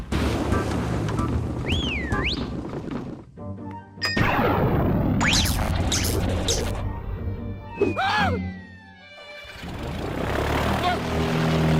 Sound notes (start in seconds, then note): 1.6 whistles